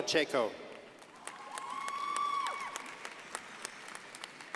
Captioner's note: crowd applauding